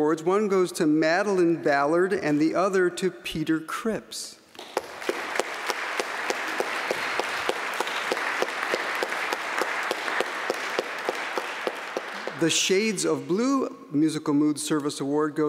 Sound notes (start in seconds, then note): 4.5 applause